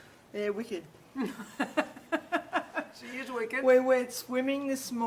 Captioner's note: laughter